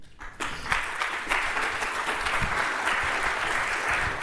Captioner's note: applause